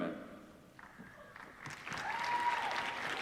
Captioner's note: applause